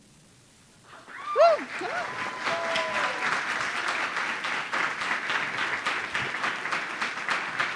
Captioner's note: audience cheering; audience applauding